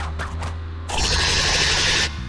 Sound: chittering; screaming

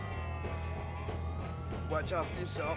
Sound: siren

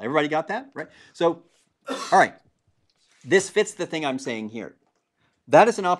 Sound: cough

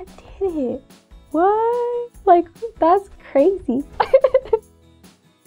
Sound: laughs

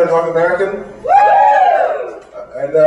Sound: cheers

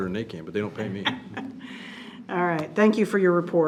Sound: trustee laughing

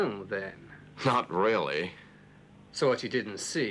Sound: chuckles

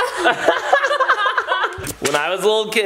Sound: laugh

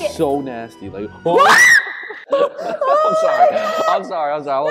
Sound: yells

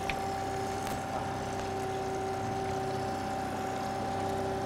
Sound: fish splashing

